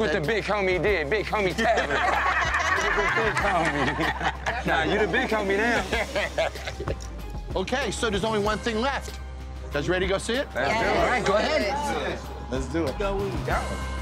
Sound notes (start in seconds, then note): 1.5 all laughing; 6.1 Jon laughing